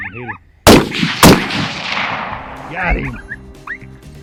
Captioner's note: gun shots